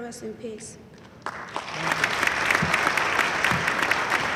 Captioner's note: audience applauding loudly